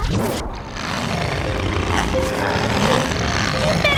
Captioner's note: growling